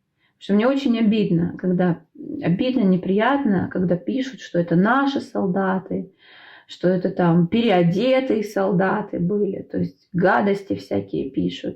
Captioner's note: Ukrainian